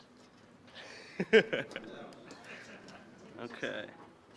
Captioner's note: laughing